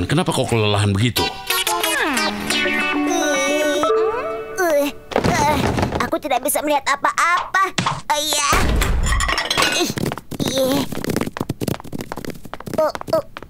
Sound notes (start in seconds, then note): 1.6 sighing; 5.1 groaning; 8.6 door closing; 10.1 balls falling